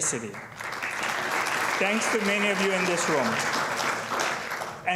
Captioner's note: applause